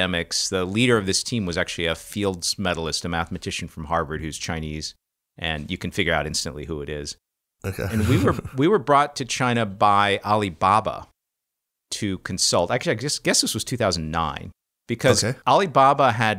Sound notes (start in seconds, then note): 7.7 laughter